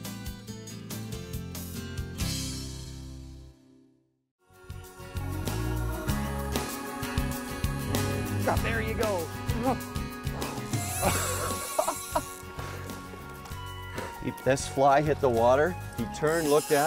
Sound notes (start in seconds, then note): 0.0 slow guitar music; 5.2 upbeat music; 10.4 laughs